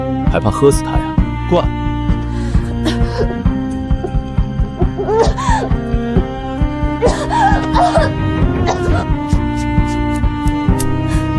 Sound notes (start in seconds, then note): 2.8 coughing